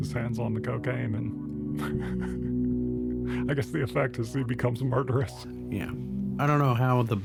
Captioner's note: laughs